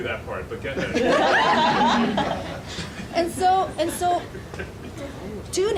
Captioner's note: audience laughing drowns out speaker